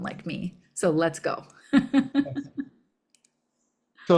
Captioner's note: laughs